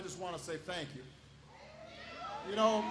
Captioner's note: applause